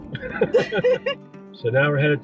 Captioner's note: laughing